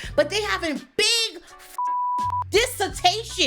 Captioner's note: beep